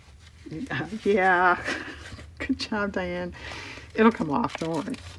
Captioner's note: laughs